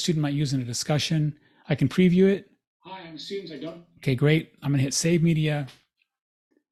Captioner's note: recording playing